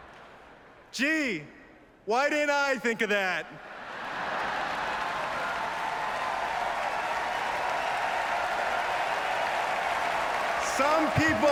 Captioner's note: laughter and applause